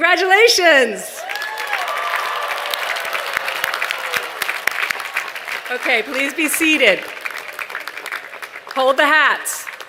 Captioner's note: applause